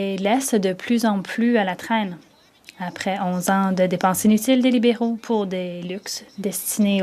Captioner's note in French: voix de l'interprète